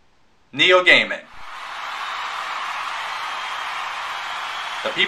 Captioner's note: crowd Screaming